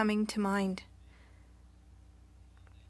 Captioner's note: speaking French